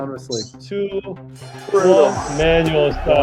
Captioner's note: bell ringing